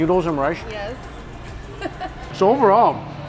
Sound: laughs

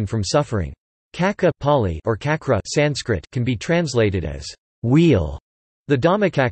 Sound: Pāli

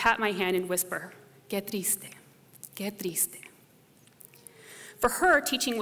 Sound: speaking spanish

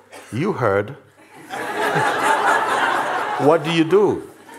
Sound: laughter

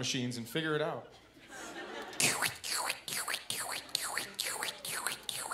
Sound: imitating ultrasound heartbeat

